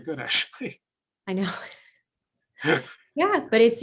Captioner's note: laughs